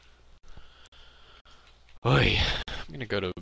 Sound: sighs

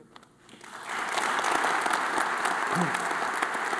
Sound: all applauding

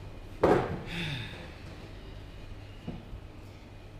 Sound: sighs

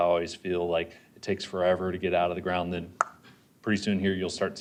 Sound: pop

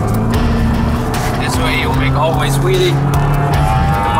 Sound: indistinct chatter

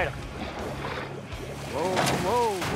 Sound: splasashing

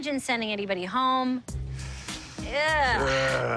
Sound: growls

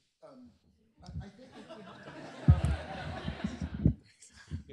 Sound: laughter

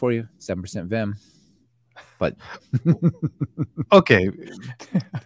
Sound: laughs

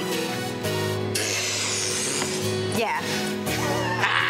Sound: blows raspberry; cackling

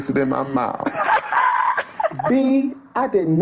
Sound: laughs loudly

